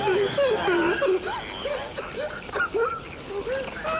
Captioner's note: student crying